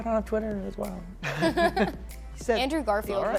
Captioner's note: laughter